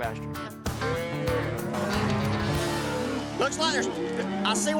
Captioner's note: mooing